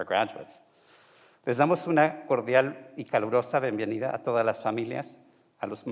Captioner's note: speaking in foreign language